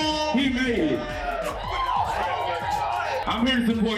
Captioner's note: cheering